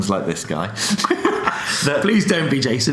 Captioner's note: laughs